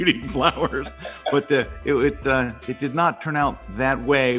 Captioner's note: laughs